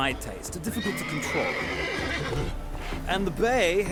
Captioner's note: neigh